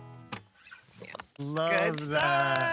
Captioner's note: group claps